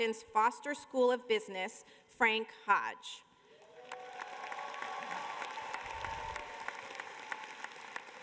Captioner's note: cheers and applause